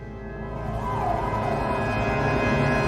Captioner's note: sirens blaring in distance